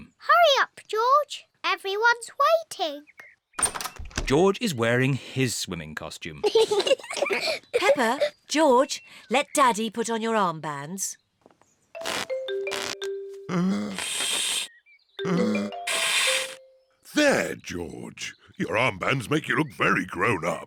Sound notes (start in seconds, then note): 6.4 both laugh; 15.2 blowing deeply